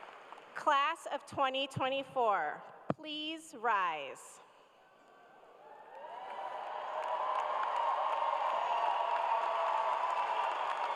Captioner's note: cheers and applause